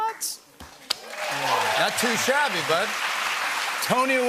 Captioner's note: cheers and applause